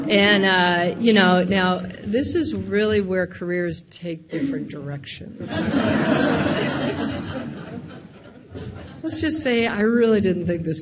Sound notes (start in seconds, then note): 5.4 audience laughs